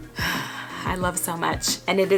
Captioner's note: sighing